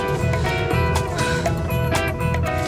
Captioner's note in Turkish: Nefes sesi